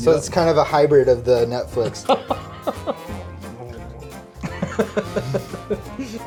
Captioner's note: nom nom sounds and laughter